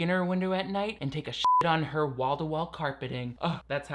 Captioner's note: beep